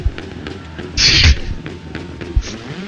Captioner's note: laughs